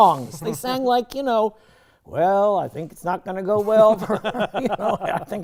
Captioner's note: sing-songy